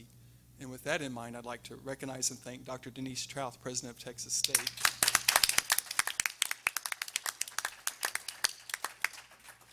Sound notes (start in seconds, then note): 4.5 everyone applauding